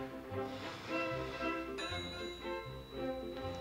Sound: bell dings in distance

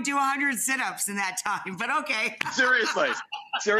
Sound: laughs

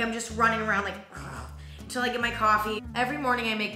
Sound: growls

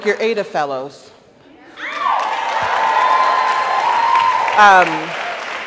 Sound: audience cheers

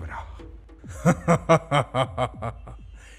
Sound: laughing

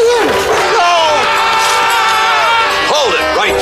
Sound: all Screaming

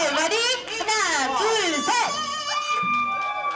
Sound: speaks in foreign language; audience shouts and claps

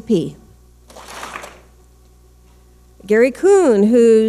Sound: clap smack

